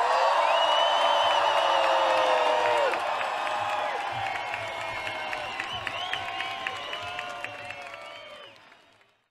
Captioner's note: applause